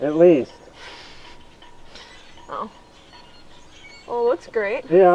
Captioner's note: laughing